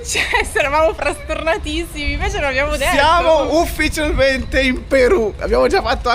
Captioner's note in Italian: risate